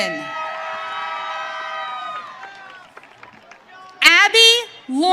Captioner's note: audience cheering